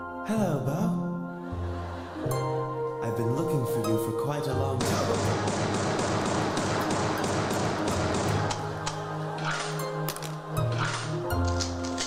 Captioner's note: excessive gunfire